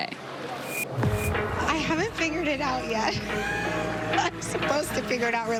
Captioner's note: laughter